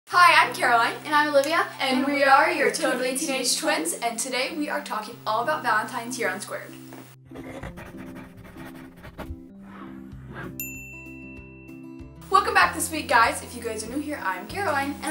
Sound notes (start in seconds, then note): 7.2 pencil scratching; 10.6 dinging